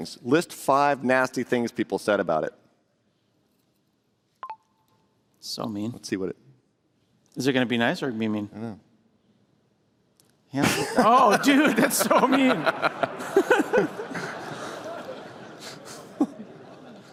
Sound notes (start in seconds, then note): 4.4 computer Chirps; 13.0 laughter